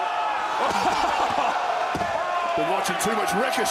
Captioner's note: laughs